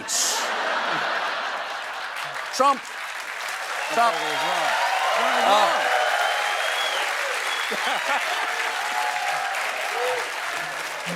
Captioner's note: laughter and applause